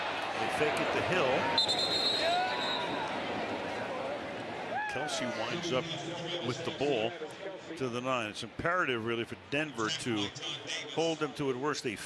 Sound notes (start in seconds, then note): 1.5 whistle